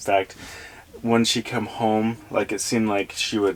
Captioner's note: none